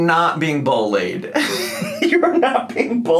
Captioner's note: laughing